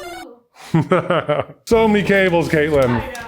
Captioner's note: laughs